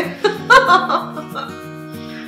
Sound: laughing

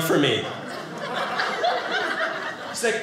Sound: audience laughing

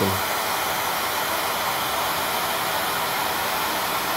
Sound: loud whirring

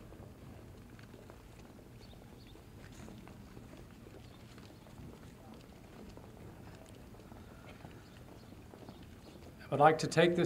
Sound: footsteps and other background noise

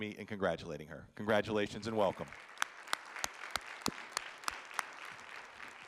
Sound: audience applauding

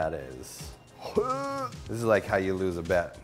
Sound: gags

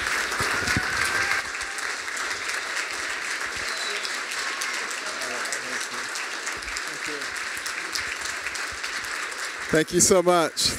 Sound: applause

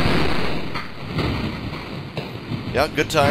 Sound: explosion

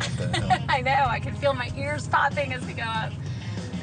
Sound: laughs

